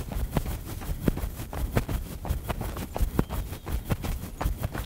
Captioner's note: sound of runner’s footsteps